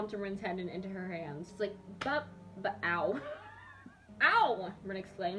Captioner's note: laughs